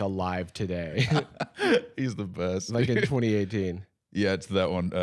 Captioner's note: laughs